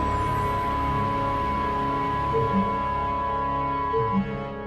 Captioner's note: loss of contact sound